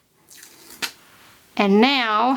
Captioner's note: liner slaps